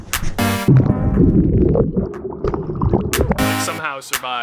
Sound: water bubbling

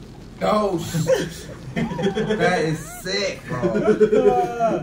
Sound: laugh

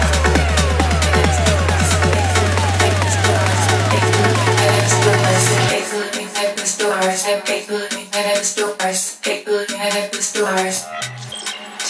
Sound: robotic alien speech

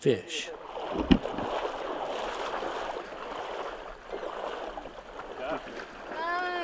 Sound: splash sound

